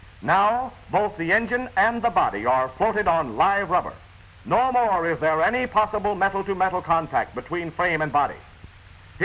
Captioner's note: none